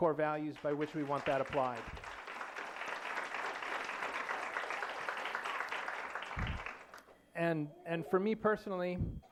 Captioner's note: applause